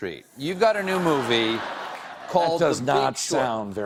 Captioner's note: laughter